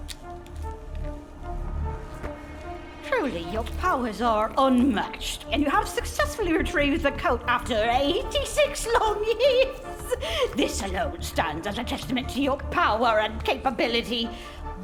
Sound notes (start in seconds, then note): 8.6 laughs